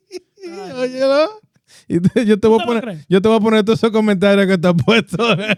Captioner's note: speaking In Foreign Language